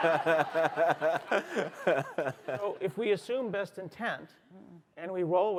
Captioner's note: laughter